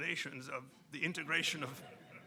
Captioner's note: audience chuckling